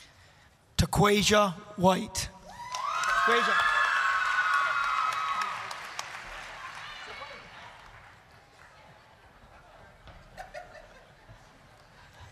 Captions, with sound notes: TAQUASHA WHITE... (applause, cheering)